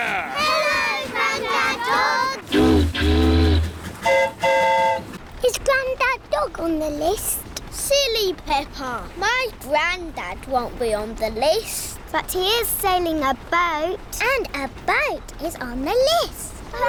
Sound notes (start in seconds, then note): 2.4 boat horn honks; 2.5 train horn toots